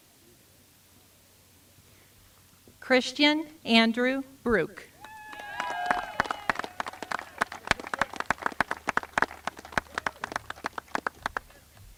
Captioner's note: applause